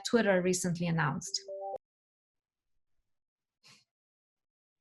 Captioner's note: computer tones